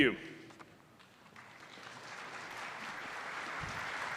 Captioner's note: applause